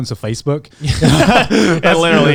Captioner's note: all laughing